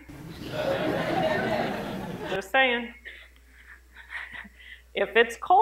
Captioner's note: laughter